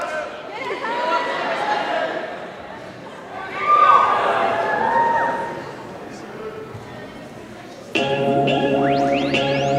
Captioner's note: audience murmurs and cheers